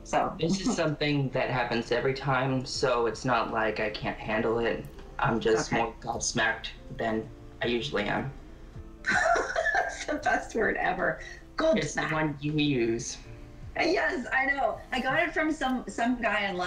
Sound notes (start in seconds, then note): 9.1 laughs intensely; 12.7 uses British accent